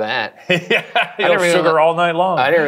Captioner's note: laughs